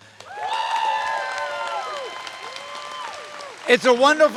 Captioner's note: audience cheers and applauds